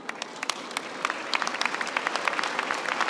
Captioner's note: applause